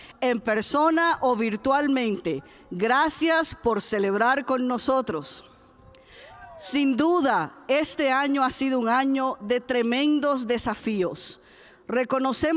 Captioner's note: cheers; speaks spanish